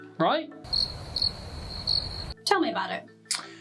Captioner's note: crickets chirping